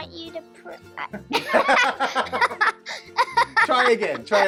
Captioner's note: laughs